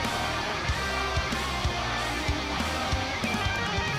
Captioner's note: fans chanting